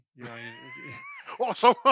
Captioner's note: laughs